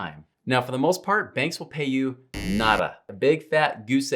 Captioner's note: buzzer beeps